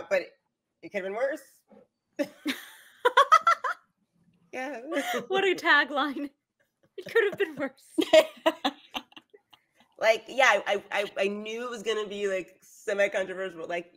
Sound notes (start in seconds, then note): 2.0 chuckles; 3.1 laughs; 8.4 laughs